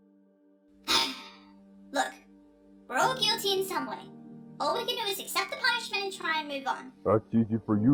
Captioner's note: sigh